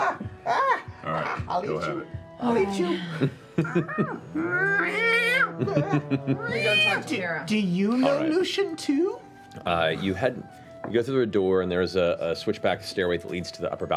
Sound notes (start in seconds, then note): 3.7 angry meowing